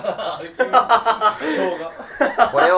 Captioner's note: laughing